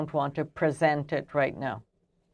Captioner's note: speaking French